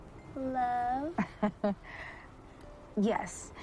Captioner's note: chuckling